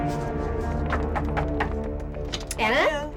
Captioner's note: knocking